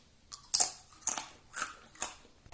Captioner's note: munching sound